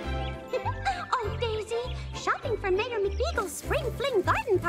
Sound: giggles

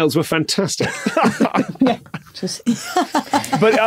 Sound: laugh; laughs

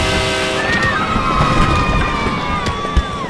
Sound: kids cheer

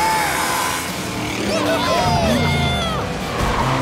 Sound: cheering

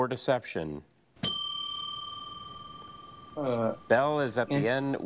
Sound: bell dings

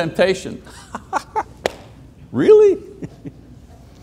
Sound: laughing

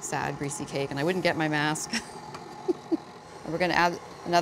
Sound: chuckles

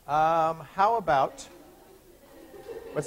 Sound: chuckling

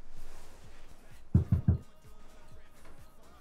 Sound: knock of the front door

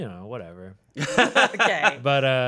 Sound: laughing

